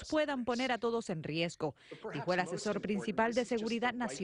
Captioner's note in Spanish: habla en ingés